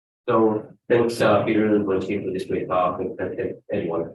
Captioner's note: speaks faintly